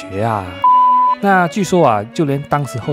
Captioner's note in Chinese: Beep…